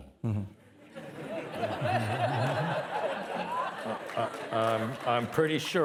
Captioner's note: participants laughing